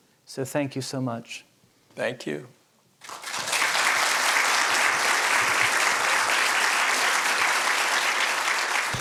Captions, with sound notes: So thank you so much. Thank you. [APPLAUSE]